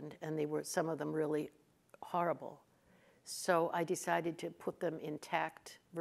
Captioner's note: none